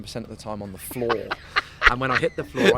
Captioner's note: laughs